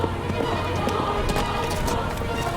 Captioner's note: running footsteps